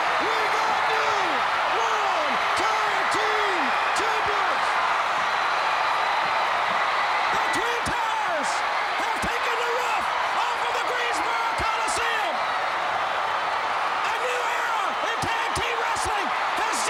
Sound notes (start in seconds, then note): 0.0 crowd cheering; 5.2 crowd cheering